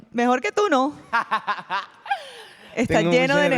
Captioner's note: laughs excitedly